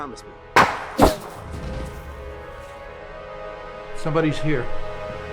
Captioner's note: gunshot bangs